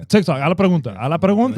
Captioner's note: speaking In Foreign Language